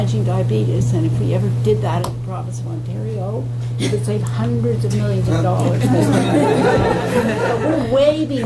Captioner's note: laughter